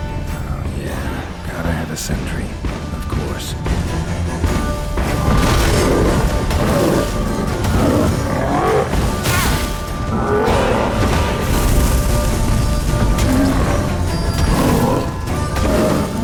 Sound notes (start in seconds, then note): 6.1 bellowing and groaning; 9.7 cries out; 11.1 roar; 12.8 thunderous boom; 15.2 groan